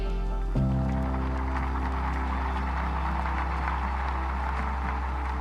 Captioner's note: audience applauding